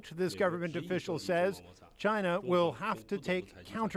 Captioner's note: speaking chinese